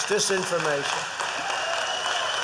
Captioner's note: applause